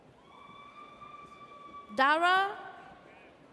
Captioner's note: audience cheers